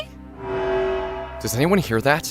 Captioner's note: siren blares